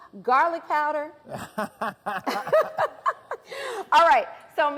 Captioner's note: both laugh